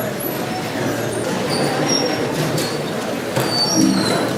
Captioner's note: loud chatter